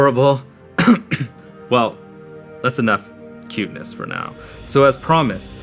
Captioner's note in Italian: coff